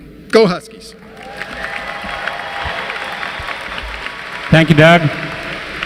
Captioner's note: applause